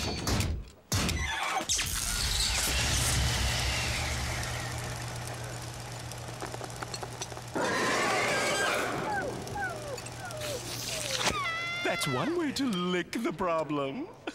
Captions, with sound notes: [electric crackling] [roaring] That's one way to lick the problem.